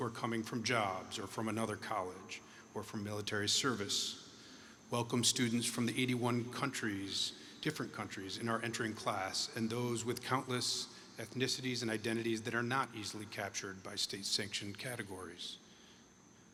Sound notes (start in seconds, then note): none